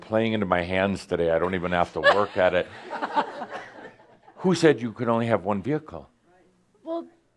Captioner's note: more chuckles